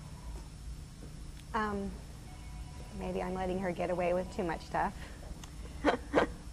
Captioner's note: laughs